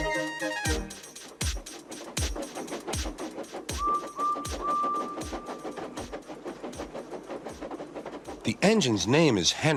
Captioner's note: Edward blows his whistle, passing by with a train